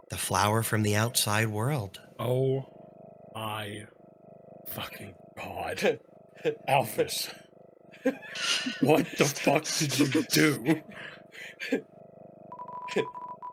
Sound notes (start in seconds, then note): 6.4 laughs